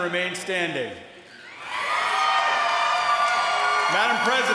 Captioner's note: applause